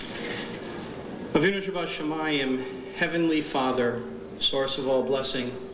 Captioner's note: speaking foreign language